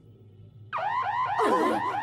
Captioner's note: alarm sounding